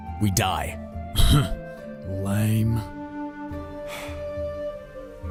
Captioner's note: huffs